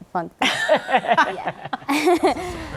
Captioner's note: laughter